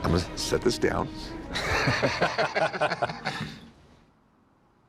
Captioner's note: laughter